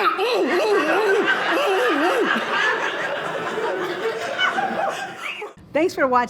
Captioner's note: audience laughing